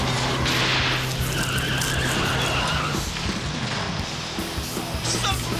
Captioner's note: tires screeching